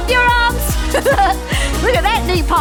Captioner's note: laughs